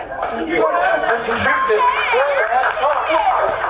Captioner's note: applause